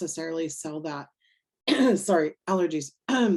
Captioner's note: coughs